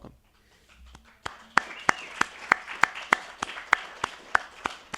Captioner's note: attendees applauding